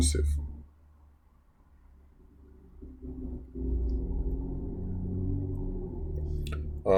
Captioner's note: traffic Sounds